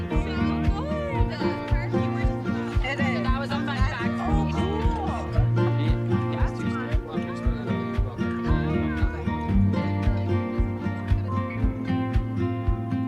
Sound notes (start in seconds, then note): 5.9 chattering continues